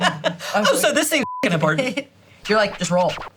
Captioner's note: beep